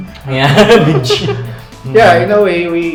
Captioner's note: laughs